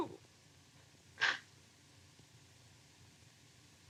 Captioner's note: sobs